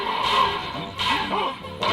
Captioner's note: clanking